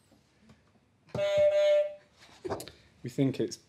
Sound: honk

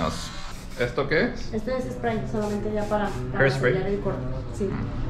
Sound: speaking in Spanish

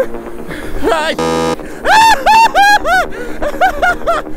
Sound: buzzer

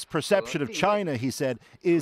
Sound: speaking alternate language

